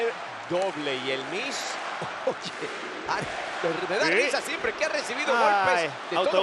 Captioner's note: laugh